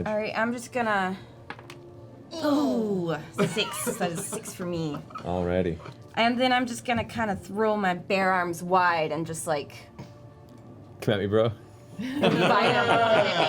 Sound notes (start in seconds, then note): 12.0 laughter; 12.1 laughs